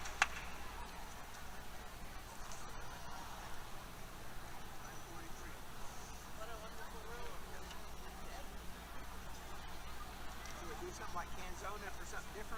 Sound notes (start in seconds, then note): 0.0 background Conversation